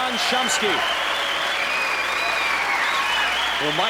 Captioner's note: cheering and applause